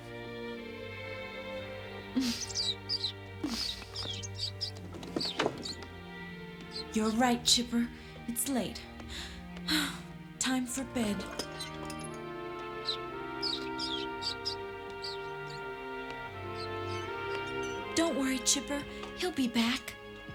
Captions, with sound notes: (GIGGLES) You're right, Chipper. It's late. (SIGHS) Time for bed. Don't worry, Chipper. He'll be back.